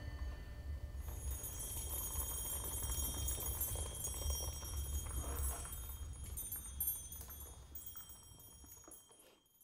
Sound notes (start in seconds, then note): 1.0 delicate jingling